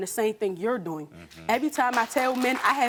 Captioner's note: audience applauding